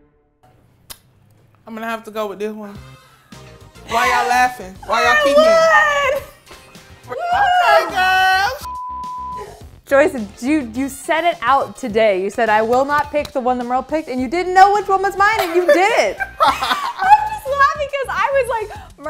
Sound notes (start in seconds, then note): 3.0 upbeat music; 8.6 beep